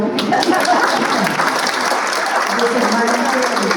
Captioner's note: applause